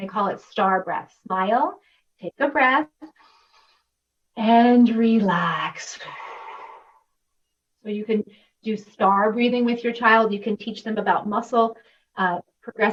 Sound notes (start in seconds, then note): 3.4 inhaling; 6.0 exhaling